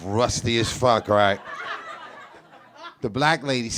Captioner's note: audience laughs